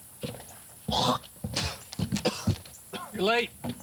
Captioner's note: Spencer spits; Spencer coughs